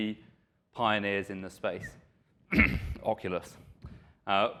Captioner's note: coughs